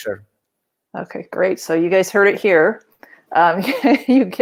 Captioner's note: laughs